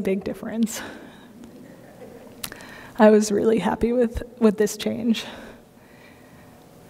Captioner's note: laughter